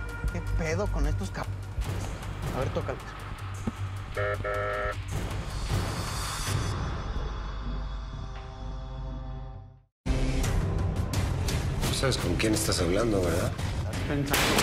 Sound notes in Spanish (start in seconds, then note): 4.1 suena claxon de la patrulla